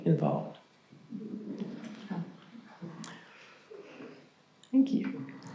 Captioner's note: crowd softly murmurs